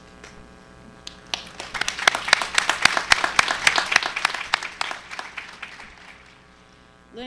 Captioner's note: applause